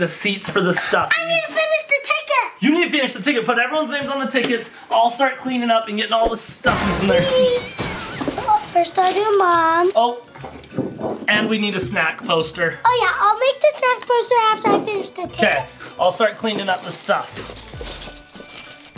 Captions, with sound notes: for the stuffies. - I need to finish the ticket! - You need to finish the ticket. Put everyone's names on the tickets. I'll start cleaning up and getting all the stuffies (stuffies crash) in their seats. - First I'll do Mom. - Oh. And we need a snack poster. - Oh yeah, I'll make the snack poster after I finish the tickets. - Okay. I'll start cleaning up the stuff. (light happy music)